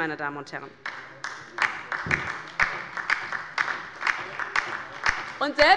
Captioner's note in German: Beifall bei der LINKEN